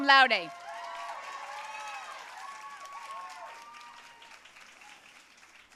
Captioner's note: audience cheering and applauding